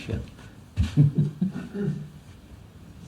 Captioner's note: laughs